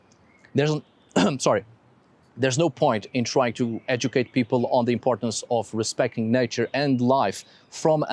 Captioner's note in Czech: kašel